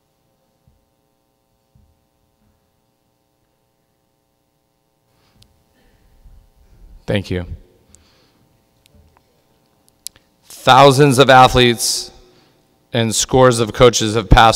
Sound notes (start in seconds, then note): none